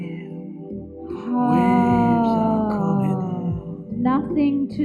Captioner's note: sighs